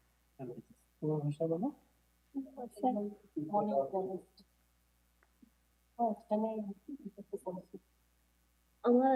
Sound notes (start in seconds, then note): 0.8 speaker speaking in foreign language